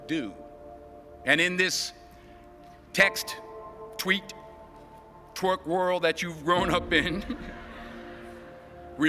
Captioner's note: chuckle